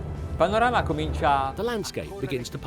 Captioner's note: speaking in a foreign language